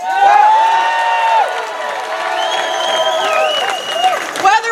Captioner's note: cheering